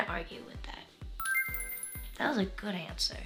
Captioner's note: bell chimes